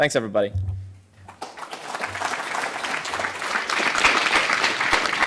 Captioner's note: applause